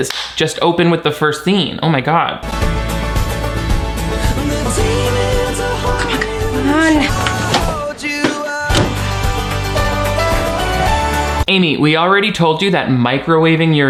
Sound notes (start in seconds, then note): 0.0 hands clapping; 2.7 upbeat instrumental music; 8.7 microwave oven door popping; 8.7 microwave oven door thudding; 8.8 upbeat instrumental music